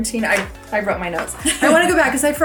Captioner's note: laughs